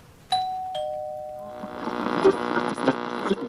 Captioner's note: doorbell rings; radio static